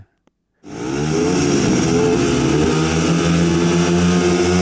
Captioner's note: bikes revving